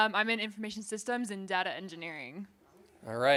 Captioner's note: none